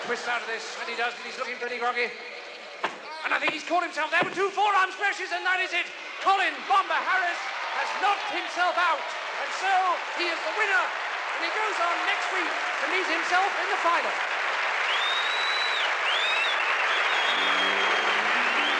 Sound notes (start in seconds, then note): 14.5 all cheering; 16.8 orchestral music playing over speakers